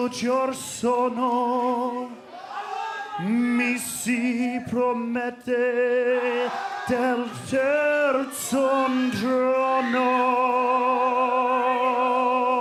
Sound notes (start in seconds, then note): 0.0 singing in foreign language; 0.6 crowd cheering